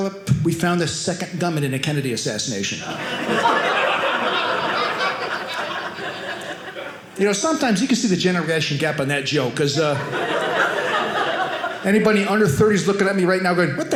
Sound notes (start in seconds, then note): 2.8 audience laughing